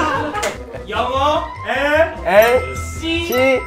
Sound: fancy pronounciation

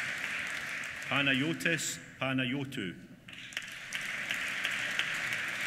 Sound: applause

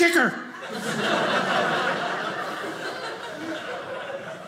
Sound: audience laughing

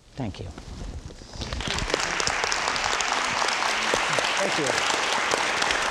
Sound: audience applauds

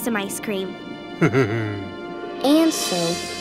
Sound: laughing

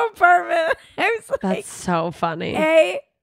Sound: laughing

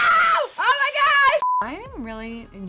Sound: TV beeps

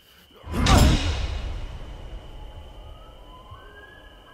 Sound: wrench smashes

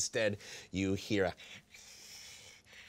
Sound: breathing loudly

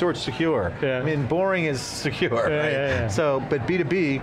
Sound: chuckles

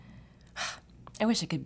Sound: sighs

